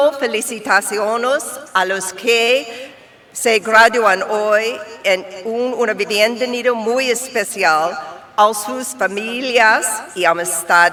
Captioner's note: speaking spanish